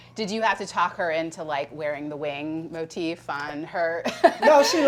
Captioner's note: laughs